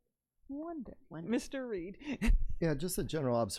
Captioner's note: laughs